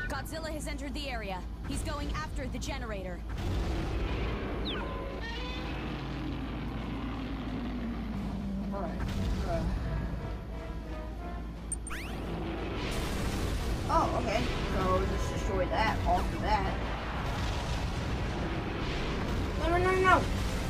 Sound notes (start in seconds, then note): 3.3 roars; 15.8 gunfire